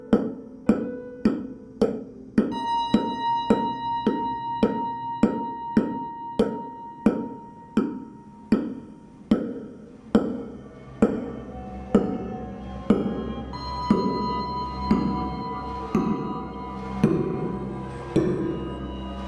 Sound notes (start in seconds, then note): 10.3 sound of everything slowing down